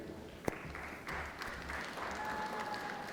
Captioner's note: applause